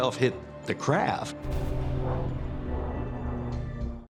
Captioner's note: plane engine droning